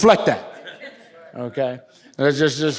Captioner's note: audience laughs